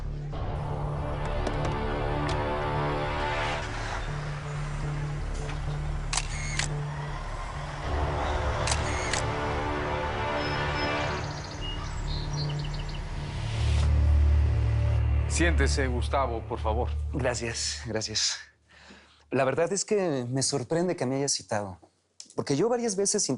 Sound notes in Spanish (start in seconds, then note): 6.4 Sonido del obturador